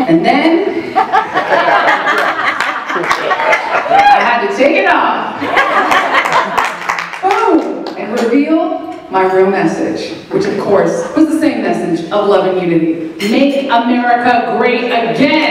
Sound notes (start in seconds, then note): 0.9 laughter